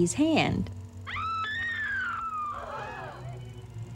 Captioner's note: screaming